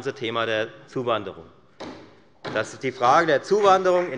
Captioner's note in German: Beifall bei der FDP und bei Abgeordneten der SPD